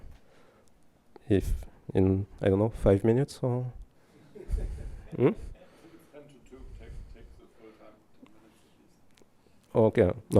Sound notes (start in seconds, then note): 4.1 laughter